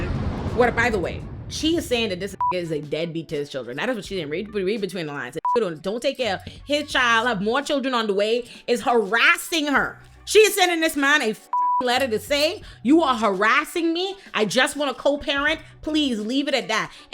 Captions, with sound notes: What, by the way, she is saying that this (beep) is a deadbeat to his children. That is what she didn't read between the lines. Don't take care of his child, have more children on the way, is harassing her. She is sending this man a (beep) letter to say, "You are harassing me? I just want to co-parent? Please leave it at that."